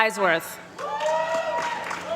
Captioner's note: applause